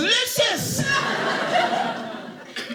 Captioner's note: audience laughing